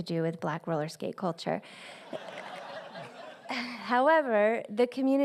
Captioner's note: laughter